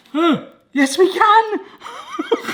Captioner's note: laughs